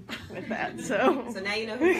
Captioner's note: people giggle